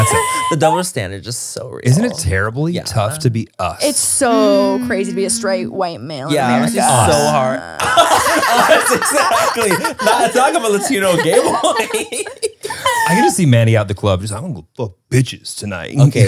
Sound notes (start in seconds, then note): 7.7 everyone laughs